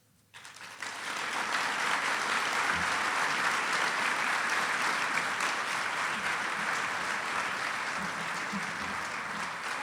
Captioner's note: audience applause